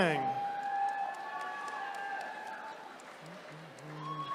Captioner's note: attendees cheering